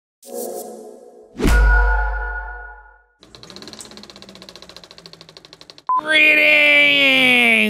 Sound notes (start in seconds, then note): 0.1 logo whooshing with a sweet, sweet thirst for lemons; 3.6 screen beeping